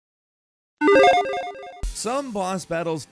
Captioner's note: logo beeping